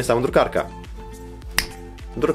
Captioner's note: snap